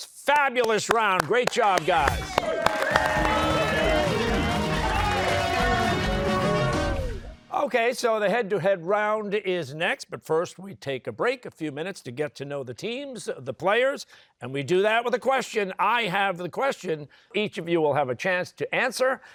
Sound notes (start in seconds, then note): 2.7 cheers and applause